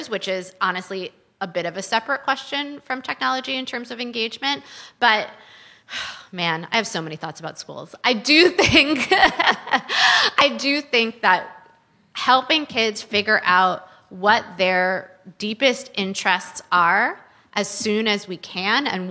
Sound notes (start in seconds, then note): 5.0 sighs; 9.2 laughs